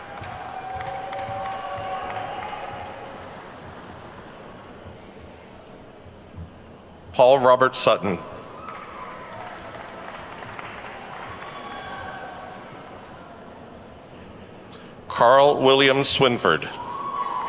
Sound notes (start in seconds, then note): 0.0 attendees whooping and clapping; 8.5 attendees clapping; 16.8 attendees whooping and clapping